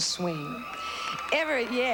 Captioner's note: cheering